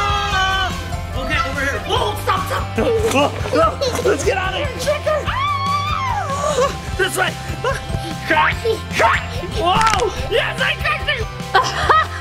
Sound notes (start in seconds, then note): 5.2 screaming; 9.7 bone cracks